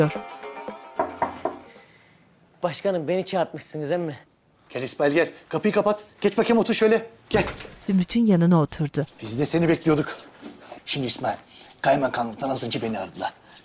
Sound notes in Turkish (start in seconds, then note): 1.0 Kapı vurma sesi